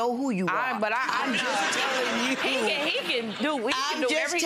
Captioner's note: audience laughs